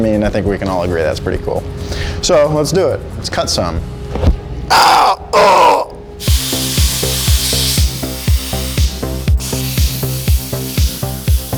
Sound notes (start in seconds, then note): 4.6 groans; 6.2 upbeat music; 6.2 plasma cutter whistling